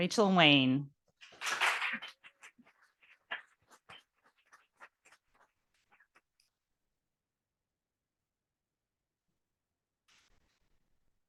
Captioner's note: audience applauding